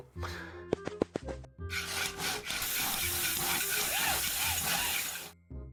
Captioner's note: sounds of crafting